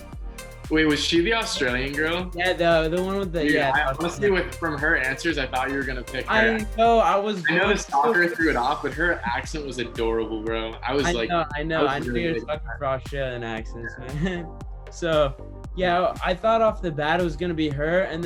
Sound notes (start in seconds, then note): 12.6 murmurs